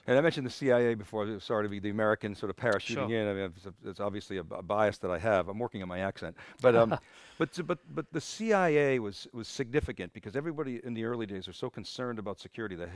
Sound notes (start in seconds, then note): 6.6 chuckles